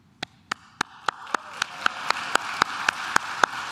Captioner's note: claps